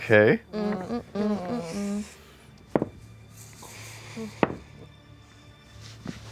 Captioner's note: uncomfortable humming